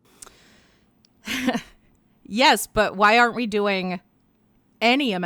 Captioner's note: chuckles